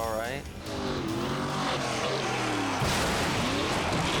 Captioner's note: car revving